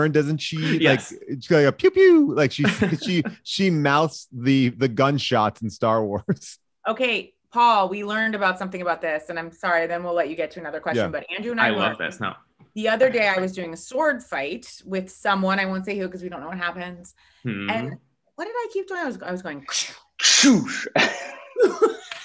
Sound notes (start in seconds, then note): 6.2 laughs; 20.6 laughs